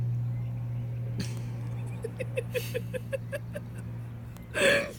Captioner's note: laughing behind camera